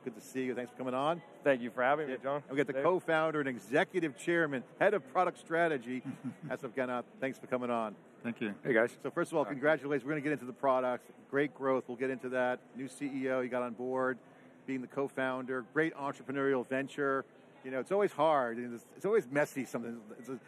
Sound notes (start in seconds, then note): 6.0 laughs